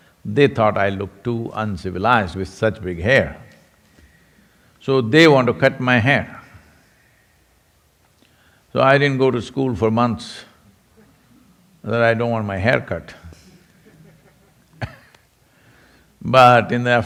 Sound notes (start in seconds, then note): 13.4 laughs